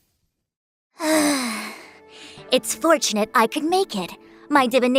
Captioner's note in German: seufz